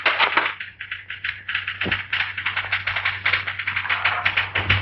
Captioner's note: rattling